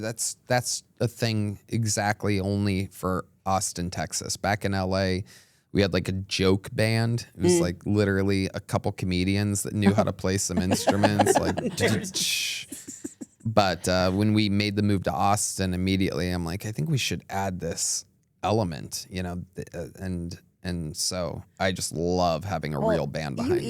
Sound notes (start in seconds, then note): 11.9 imitates cymbals clanging